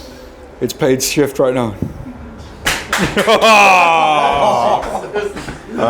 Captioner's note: laughs